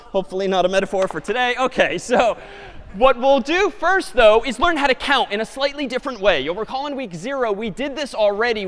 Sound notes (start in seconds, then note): 2.2 chuckle